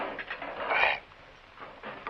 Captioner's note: sighs